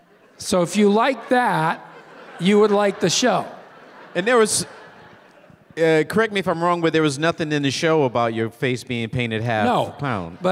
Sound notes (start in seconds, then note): 3.9 scattered audience laughter